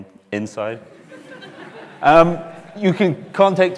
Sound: laughter

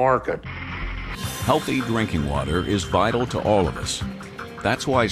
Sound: voiceover

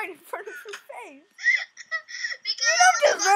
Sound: laugh sobbing

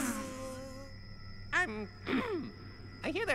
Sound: clears throat

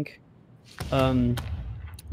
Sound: booming sound

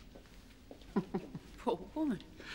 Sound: chuckling

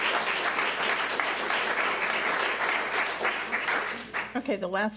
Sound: public applauding

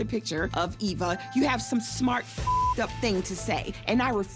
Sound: beep

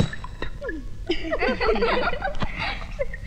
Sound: laughing

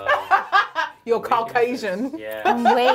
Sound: laughs

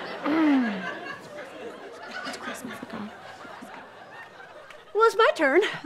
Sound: audience laughing; whispering

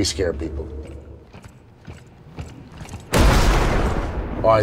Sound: feet stomping; lightning striking

